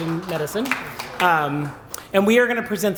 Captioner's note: applause